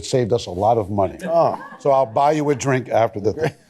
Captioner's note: laughter